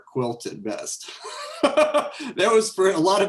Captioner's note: laughs